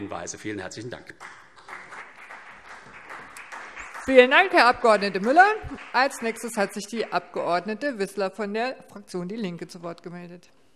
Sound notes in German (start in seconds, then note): 1.2 Beifall CDU und BÜNDNIS 90/DIE GRÜNEN